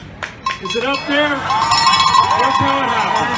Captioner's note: applause and cheers